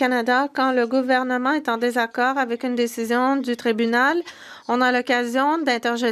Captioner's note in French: voix de l'interprète